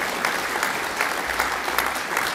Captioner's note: applause